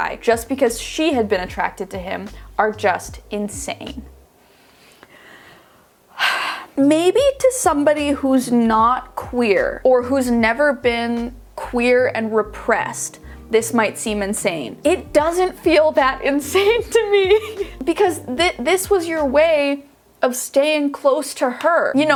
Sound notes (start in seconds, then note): 6.1 sighing; 16.4 laughing